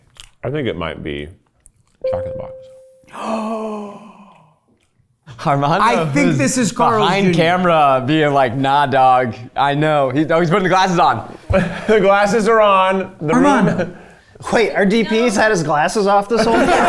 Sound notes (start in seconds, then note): 3.1 gasping